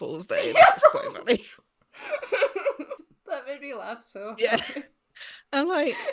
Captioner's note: laughs